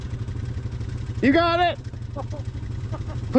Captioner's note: shouting